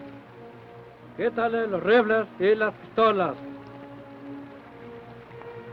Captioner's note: Chief speaks foreign language